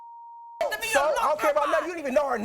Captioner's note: beep; shouting over each other